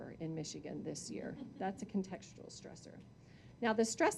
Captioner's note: audience chuckling